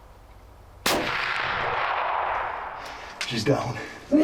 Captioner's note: gun firing